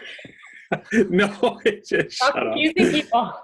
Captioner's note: laughs